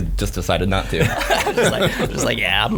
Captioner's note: laughing